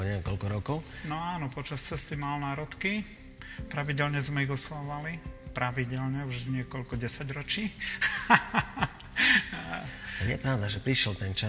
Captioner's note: laughs